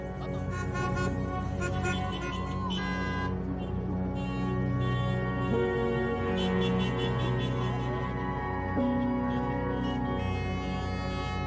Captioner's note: car horns honking